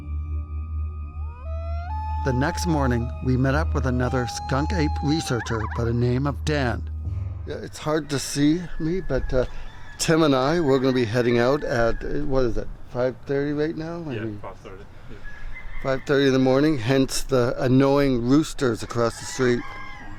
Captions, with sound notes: [howling] The next morning, we met up with another skunk ape researcher by the name of Dan. It's hard to see me, but Tim and I, we're going to be heading out at, what is it, 5:30 right now? - Yeah, 5:30, yeah. - 5:30 in the morning, hence the annoying roosters across the street.